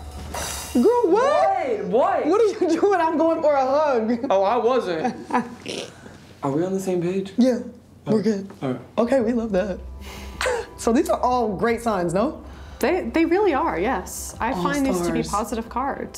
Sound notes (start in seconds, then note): 5.2 laughs